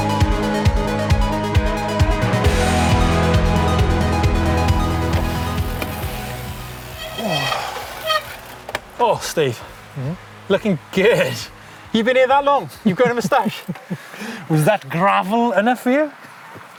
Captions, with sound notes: (brakes squeal) - Ugh, Steve. - Mm-hmm? - Lookin' good. You've been here that long? You've grown a mustache? - (laughs) Was that gravel enough for you?